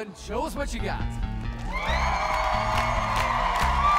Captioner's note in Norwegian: jubel og applaus